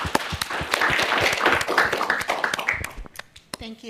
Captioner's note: applause